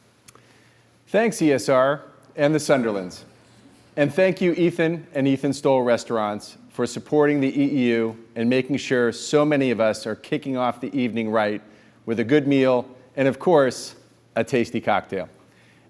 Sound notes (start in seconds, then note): none